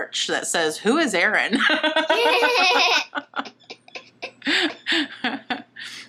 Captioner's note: laughs